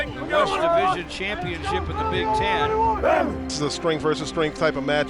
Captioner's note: shouting